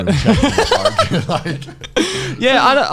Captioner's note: laughing